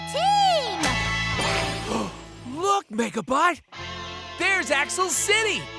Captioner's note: gasps